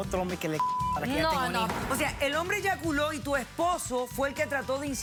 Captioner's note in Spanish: Bip